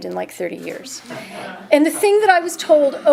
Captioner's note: audience chuckles